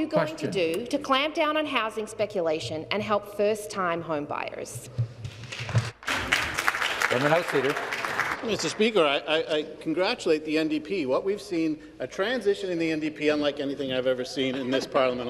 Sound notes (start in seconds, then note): 8.9 some Applause